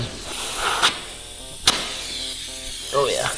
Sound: air whooshing

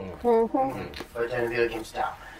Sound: sounds of agreement

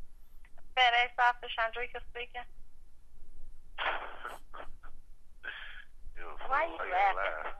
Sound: laughs

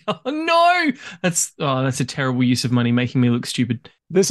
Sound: laughs

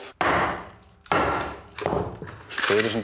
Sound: loud knocking

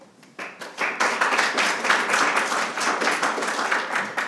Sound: attendees applauding

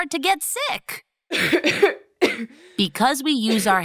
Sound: coughs

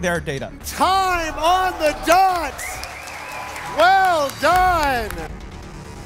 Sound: applause

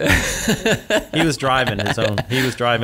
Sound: laughs

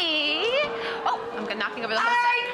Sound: audience coos

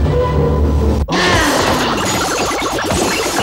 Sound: grunts

